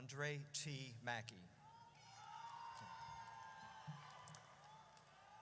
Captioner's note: audience cheers